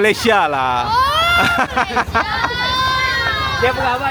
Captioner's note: laugh